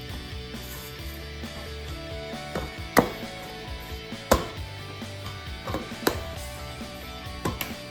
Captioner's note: kneading the Dough